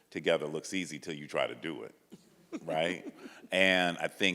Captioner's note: chuckles